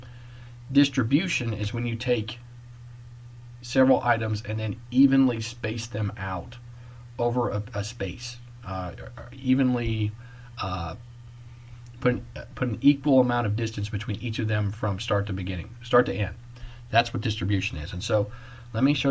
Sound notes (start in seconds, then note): none